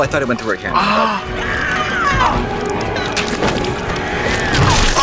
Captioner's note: Sarah screaming